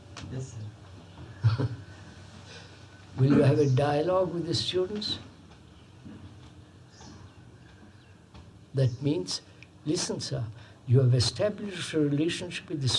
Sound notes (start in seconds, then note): 1.4 laughs